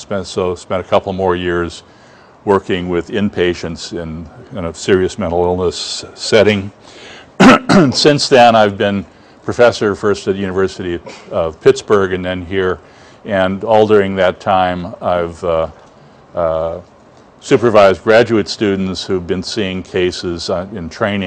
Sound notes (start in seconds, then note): 7.4 cough